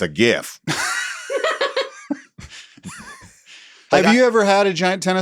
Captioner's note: laughs